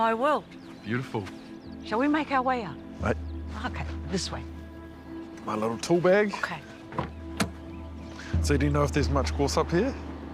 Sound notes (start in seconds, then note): none